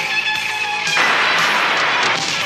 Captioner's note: roaring flame